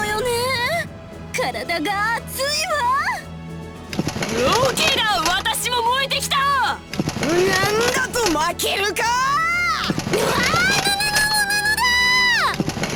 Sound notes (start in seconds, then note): none